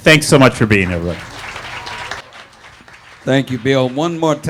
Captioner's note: audience applauding